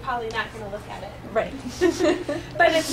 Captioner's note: laughter